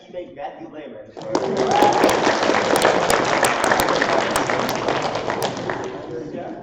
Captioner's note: applause